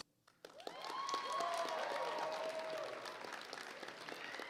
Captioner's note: applause